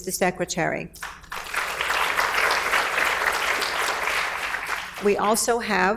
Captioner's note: audience applauds